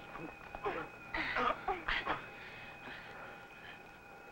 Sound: all grunting

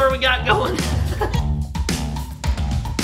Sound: laughing; upbeat music

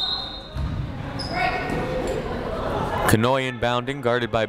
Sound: whistle blows

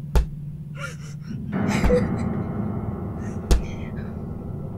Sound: dog collar jangling, sobbing; monster knocking under the bed

